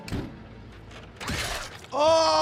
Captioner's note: tray thudding